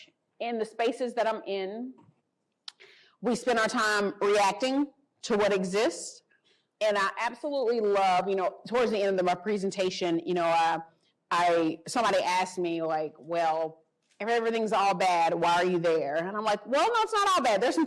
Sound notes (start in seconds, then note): none